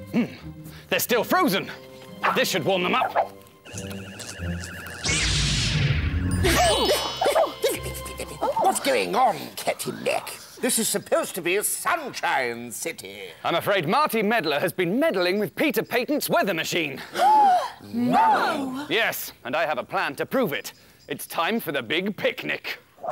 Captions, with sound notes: Hm! They're still frozen! This should warm them up! [Zap!] Ooh! What's going on, Captain Mack? This is supposed to be Sunshine City! I'm afraid Marty Meddler has been meddling with Peter Patent's Weather Machine! [Gasp!] No! Yes! And I have a plan to prove it! It's time for the big picnic!